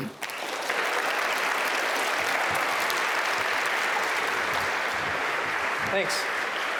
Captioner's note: applause